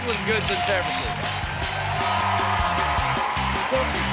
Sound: cheers and applause

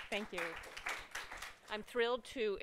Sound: applause

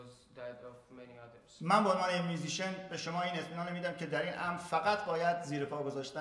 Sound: speaking in farsi

